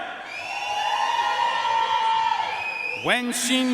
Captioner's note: audience cheering and applauding